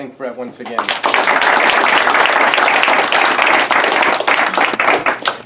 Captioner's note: applause